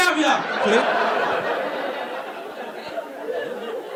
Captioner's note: audience laughing